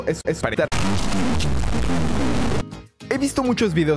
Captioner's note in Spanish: Audio Distorsionado